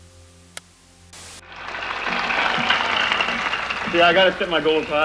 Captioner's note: crowd cheering